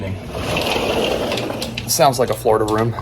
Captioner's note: door sliding